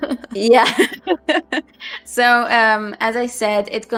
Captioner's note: laughs